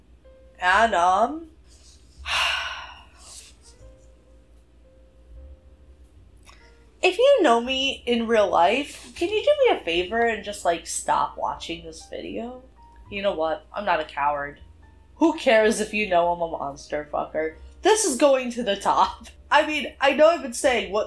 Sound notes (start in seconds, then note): 2.2 sighs